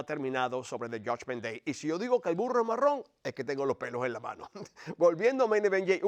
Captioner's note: laugh